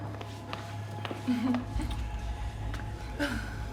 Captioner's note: chuckles nervously